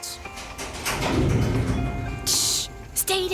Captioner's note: door creaking